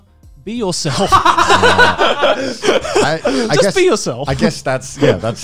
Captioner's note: laughs